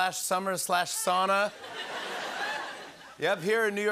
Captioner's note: laughter